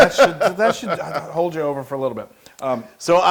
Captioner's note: laugh